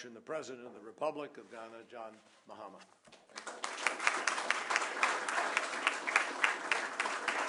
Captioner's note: applause